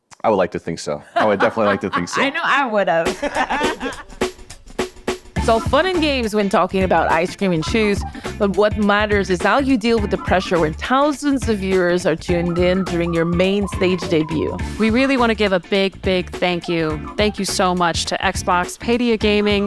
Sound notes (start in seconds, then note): 3.4 laughing